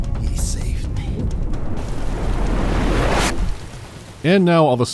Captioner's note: time woosh